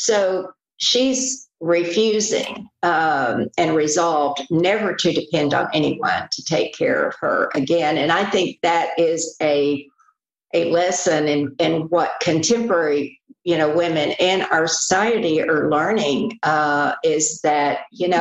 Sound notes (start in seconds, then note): none